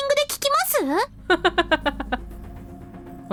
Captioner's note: chuckles